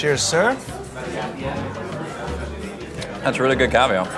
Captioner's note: patrons chattering